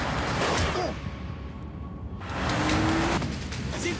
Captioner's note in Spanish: Disparos